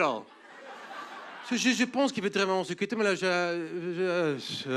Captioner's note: speaking fake French